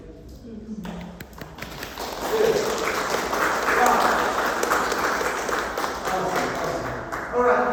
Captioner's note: applause